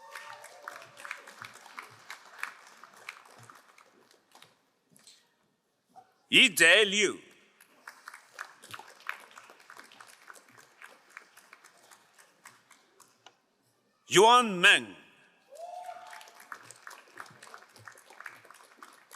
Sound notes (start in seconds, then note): 0.0 crowd cheering and applauding; 7.9 crowd applauding; 15.8 crowd applauding